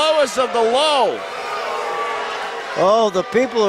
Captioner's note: crowd jeering